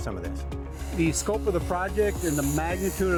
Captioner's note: machine roaring